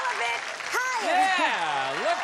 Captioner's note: applause